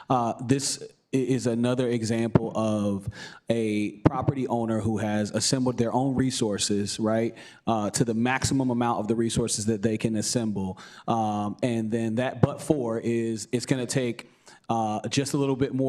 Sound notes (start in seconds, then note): none